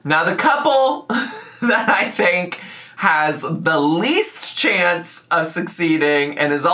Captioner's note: laughs